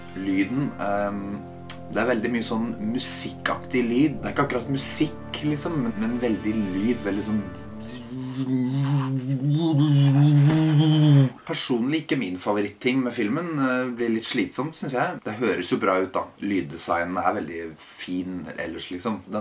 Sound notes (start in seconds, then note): 8.3 mimicking the sounds/music